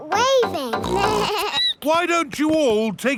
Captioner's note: snorts; bleats